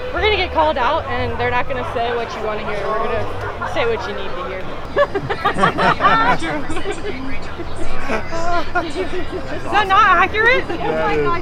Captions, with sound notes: we're going to get called out, and they're not going to say what you want to hear. They’re going to say what you need to hear. [group laughs] Is that not accurate?